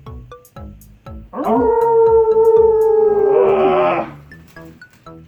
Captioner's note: howls in English